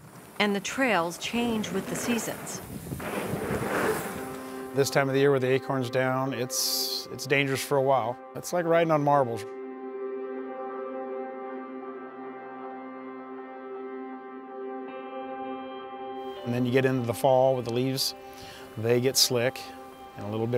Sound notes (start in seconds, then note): 2.7 bikes riding past; 11.1 dramatic music